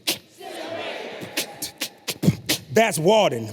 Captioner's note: beatboxes